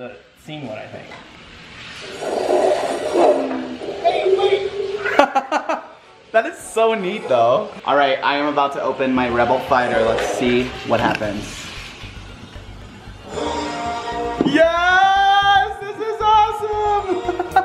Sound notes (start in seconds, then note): 1.7 drone sound effects; 3.8 laughs